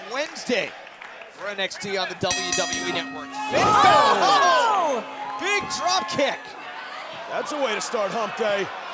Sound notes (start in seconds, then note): 2.3 bell ringing